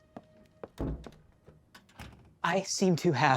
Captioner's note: footsteps; door closes